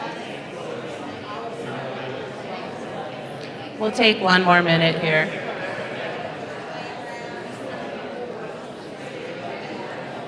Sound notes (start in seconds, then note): 5.4 audience chattering